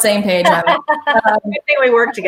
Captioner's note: laughing